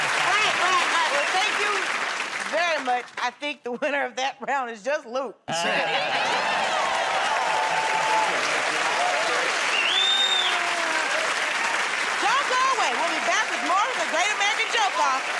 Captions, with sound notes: -Right, right, right. Well, thank you very much. I think the winner of that round is just Luke. -Yeah! [ Cheers and applause ] -[ Whistles ] -Don't go away. We'll be back with more of "The Great American Joke Off"